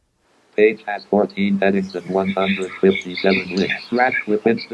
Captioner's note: automated voice